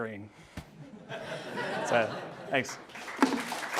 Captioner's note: audience laughing; audience clapping